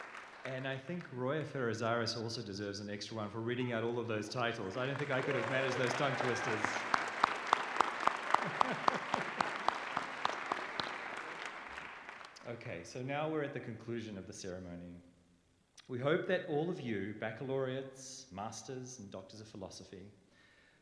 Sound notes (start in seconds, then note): 7.2 applause; 8.1 laughter